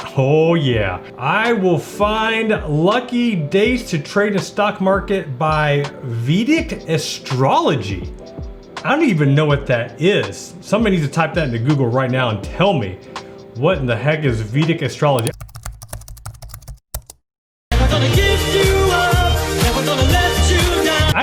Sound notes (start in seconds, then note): 15.2 keys clicking; 18.0 upbeat music